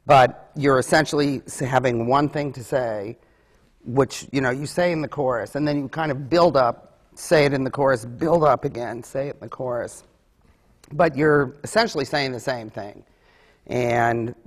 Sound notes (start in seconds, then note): none